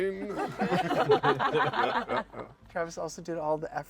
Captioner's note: laughter